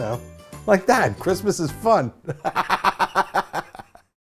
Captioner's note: laughs